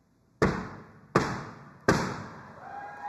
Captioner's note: pole thuds; audience cheering